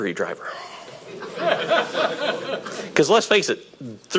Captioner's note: audience laughing